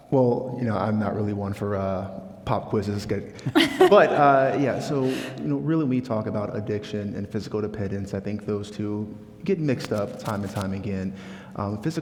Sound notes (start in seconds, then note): 3.5 laughing